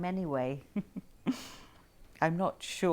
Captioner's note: Aquila laughs